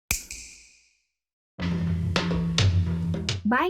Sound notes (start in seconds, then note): 0.1 snap